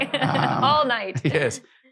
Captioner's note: laughs